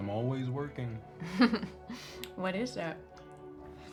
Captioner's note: chuckles